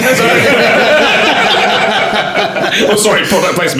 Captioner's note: laughing